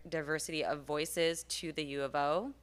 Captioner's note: none